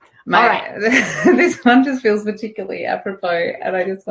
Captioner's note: giggles